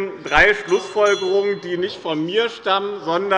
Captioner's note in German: Unruhe bei der SPD - Glockenzeichen der Präsidentin